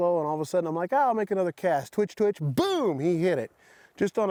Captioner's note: none